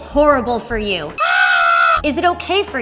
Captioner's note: screaming